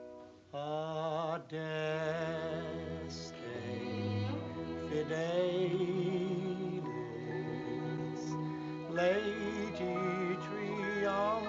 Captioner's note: non-english speech; singing